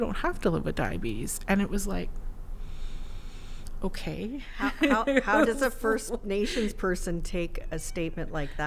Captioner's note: laughs